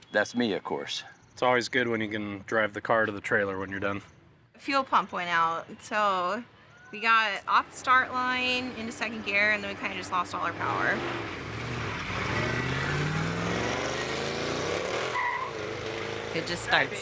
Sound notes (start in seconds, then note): 15.0 engine blaring; 15.6 tires screeching